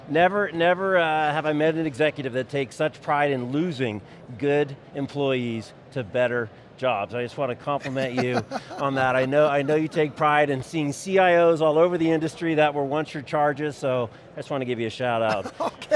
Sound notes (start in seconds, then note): 7.8 laughs